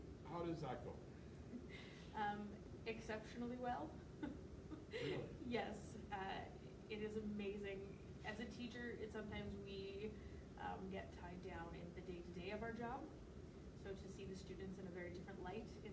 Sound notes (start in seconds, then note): 4.6 laughs